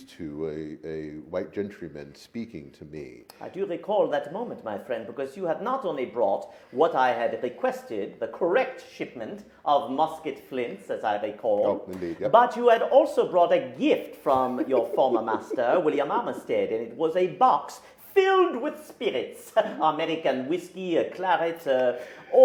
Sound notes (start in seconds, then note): 14.3 laughs; 19.6 laughs